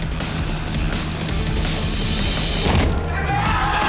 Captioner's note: cheers and applause